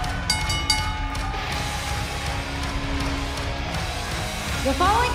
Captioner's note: crowd cheering; bell ringing